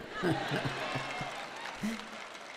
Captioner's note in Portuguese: audiência aplaude